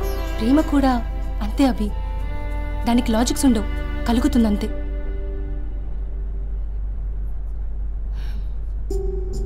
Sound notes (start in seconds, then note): 7.9 sighs